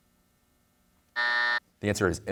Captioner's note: buzzer sounds